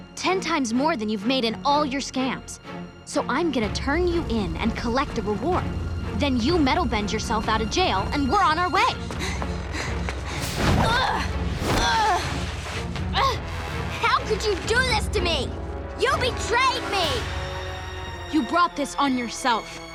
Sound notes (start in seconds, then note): 9.1 panting; 10.7 grunting